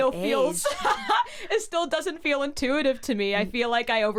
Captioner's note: laughs